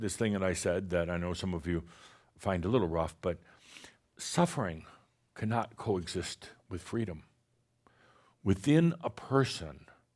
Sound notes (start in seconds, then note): none